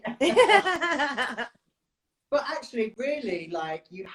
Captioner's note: laughs